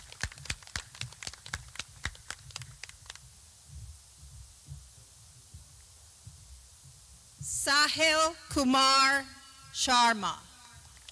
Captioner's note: clapping